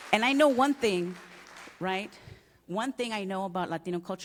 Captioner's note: applause